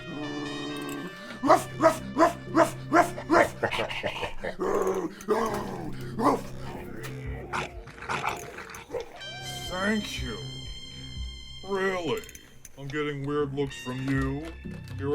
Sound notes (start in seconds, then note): 1.1 homeless man barks; 3.4 shark laughs